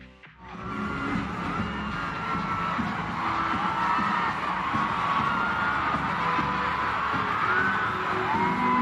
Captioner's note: crowd cheering